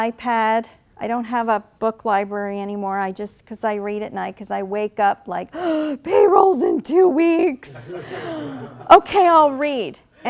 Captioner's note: laughing